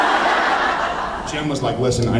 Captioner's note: laughs